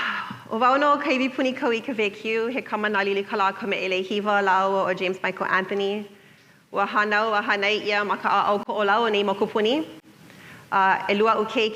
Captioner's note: self introduction in Hawaiian